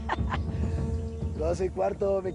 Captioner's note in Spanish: Carcajadas